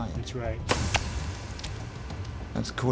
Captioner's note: gelatin squelching